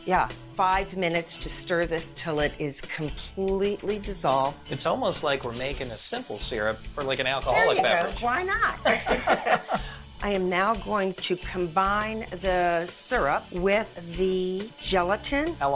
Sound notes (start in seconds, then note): 8.3 cork pops, liquid pours; 8.7 both laugh